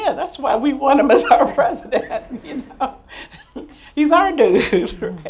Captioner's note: laughs